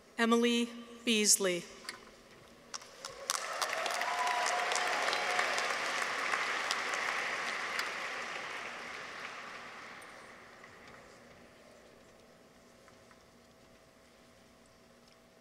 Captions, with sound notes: Emily Beasley. -(audience applauds) -(people cheer)